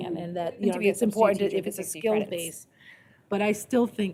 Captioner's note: indistinct chatter